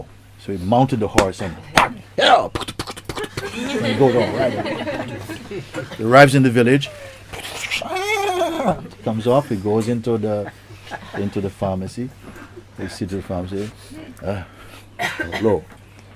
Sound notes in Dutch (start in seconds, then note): 3.1 Gelach; 7.8 paardengehinnik